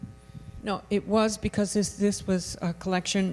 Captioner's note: voiceover